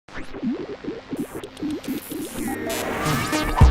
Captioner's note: electronic signals; whimsical digital music